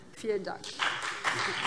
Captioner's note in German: Beifall BÜNDNIS 90/DIE GRÜNEN und CDU